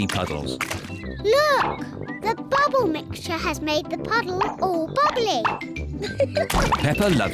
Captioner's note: laughs